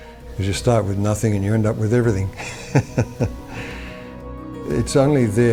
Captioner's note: laughs